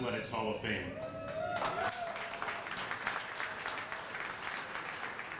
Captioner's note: audience applauding